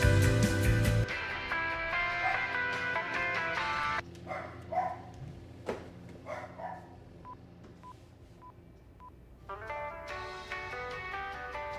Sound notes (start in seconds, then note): 2.2 dog barking; 7.2 beeping